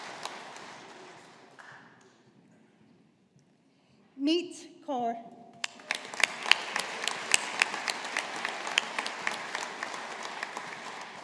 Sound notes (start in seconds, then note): 5.6 audience applauding